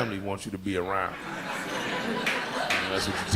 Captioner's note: audience laughing